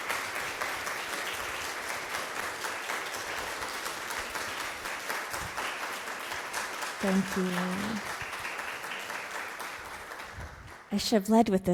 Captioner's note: applause